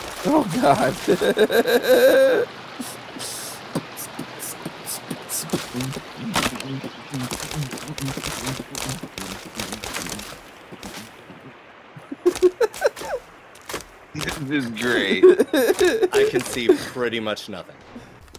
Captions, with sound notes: Oh god... *laughter* *beatboxing* This is great! I can see pretty much nothing...